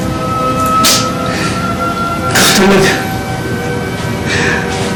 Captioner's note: Joey sniffles